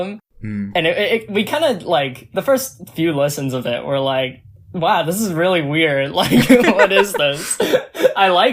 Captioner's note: both laugh